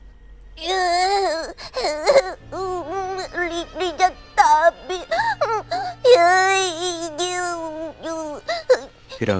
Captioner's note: sob sob